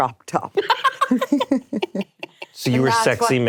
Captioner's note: laughing